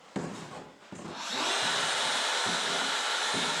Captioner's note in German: Surren der Handkreissäge